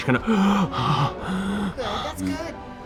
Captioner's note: gasping